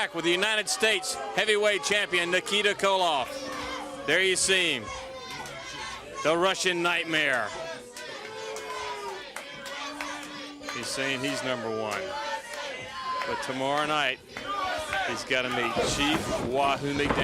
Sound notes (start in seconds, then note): 0.7 crowd chatter; 3.2 bell ringing; 14.3 crowd chatter